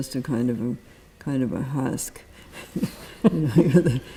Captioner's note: laughs